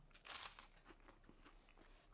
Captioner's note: soft crunch